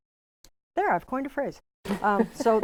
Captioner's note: laughing